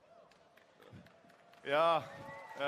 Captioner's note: applause